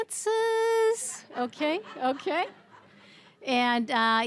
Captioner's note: audience laughing